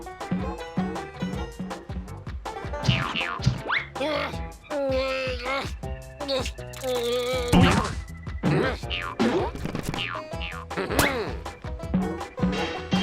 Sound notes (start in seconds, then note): 2.8 boing boing; 4.1 straining; 9.8 boinging